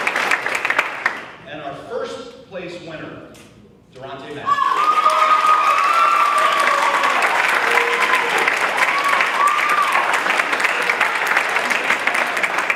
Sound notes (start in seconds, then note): 1.4 audience cheers and claps